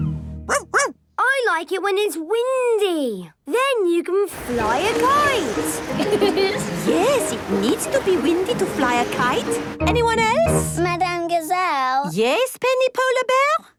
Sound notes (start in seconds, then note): 0.4 barking; 4.6 laughing